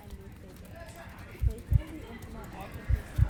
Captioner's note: keyboard typing